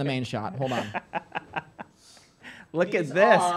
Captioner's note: laughing